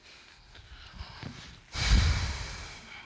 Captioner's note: sighs